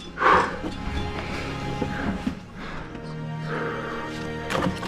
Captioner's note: heavy breathing; shuffling; metallic clank; thumping